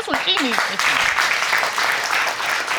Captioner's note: audience applauding